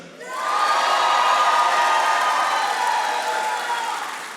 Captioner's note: audience applauding